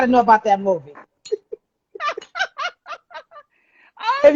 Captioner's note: laughing